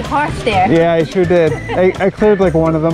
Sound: laughing

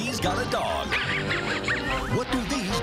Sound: muttley sniggers

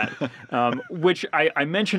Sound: laughs

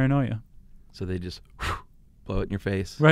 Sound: blowing air

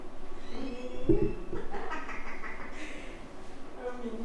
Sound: laughs

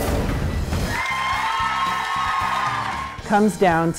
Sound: audience cheering

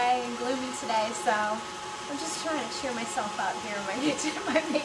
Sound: laughs

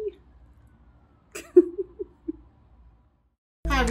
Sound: laughs

